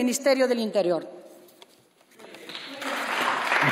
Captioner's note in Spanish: Aplausos